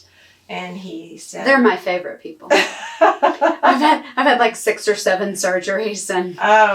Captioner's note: laughs